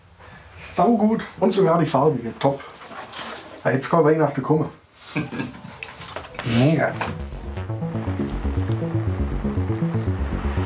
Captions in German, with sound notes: Saugut! Und sogar die Farbige, top. Jetzt kann Weihnachten bekommen. (Er lacht.) Mega. (Ruhige Musik)